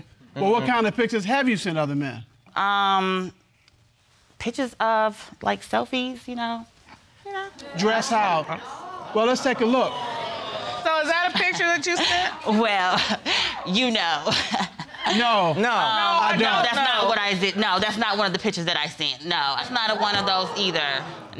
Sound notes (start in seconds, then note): 12.4 laughing